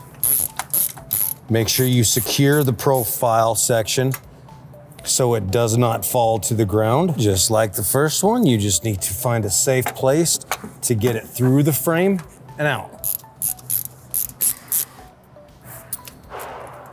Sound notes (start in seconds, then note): 0.2 tool clicking; 14.1 tool clicking